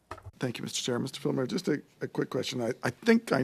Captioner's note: speaking French